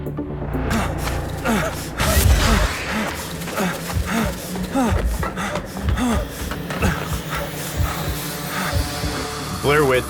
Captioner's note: in distress